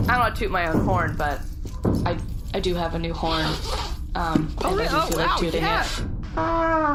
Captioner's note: unzips package